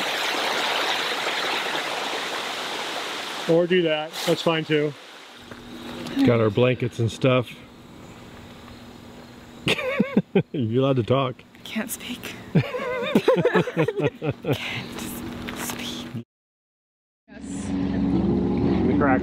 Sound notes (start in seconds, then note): 2.2 water running; 9.6 laughs; 12.5 everyone laughs